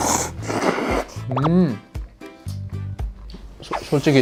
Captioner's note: nom nom slurp